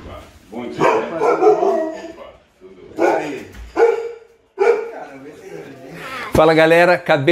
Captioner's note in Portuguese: latido de cachorro